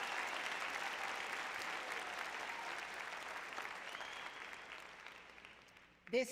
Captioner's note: applause